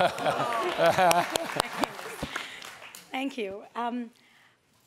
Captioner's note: audience applauds